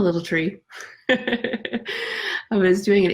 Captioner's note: laughing